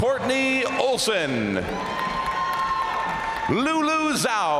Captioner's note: crowd applauding; crowd cheering; crowd applauding